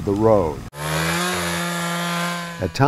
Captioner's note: sound of chainsaw